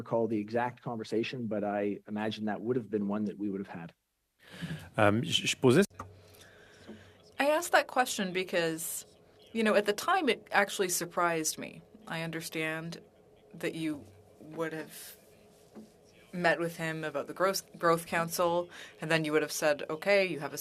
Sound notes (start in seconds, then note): 11.4 speaking French